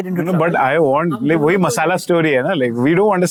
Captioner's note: speaking in Hindi